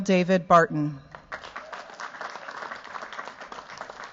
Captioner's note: cheers, applause